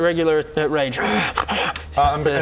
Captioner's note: hrr hgh